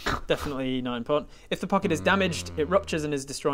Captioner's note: untrusting mmm